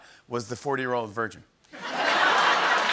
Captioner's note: laughter